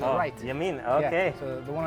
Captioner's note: speaking in foreign language